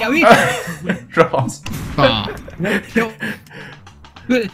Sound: laughter

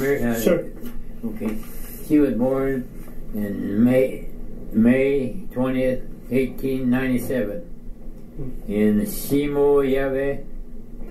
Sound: flipping through pages

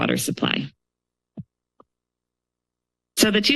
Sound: pause

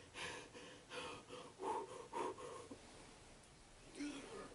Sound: quick pump-up breaths

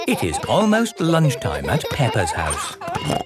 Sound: laughing

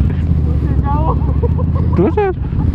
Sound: laughing

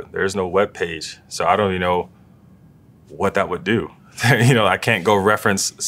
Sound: laugh

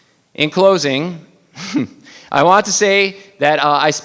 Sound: chuckles

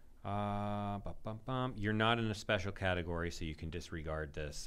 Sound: humming

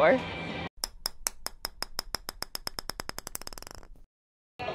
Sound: ball clanking

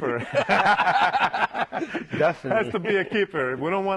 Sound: laughter

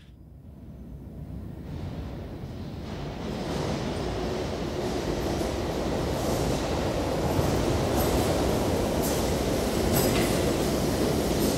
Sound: passing steam train pulling into a station

